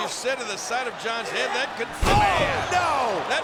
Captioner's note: body thudding